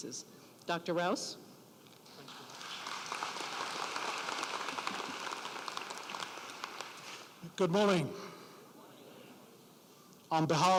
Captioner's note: applause